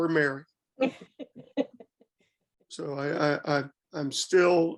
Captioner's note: laughter